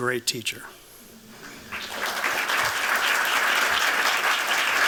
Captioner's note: applause